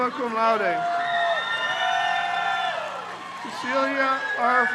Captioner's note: crowd cheers